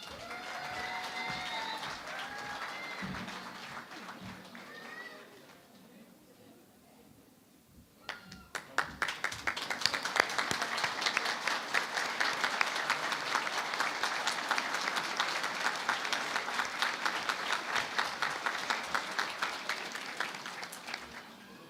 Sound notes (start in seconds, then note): 0.0 cheering and Applause; 8.0 applause